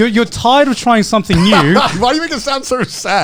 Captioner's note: laughs